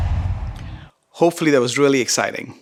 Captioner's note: logo swooshes